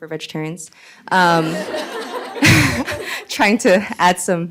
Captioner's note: laughter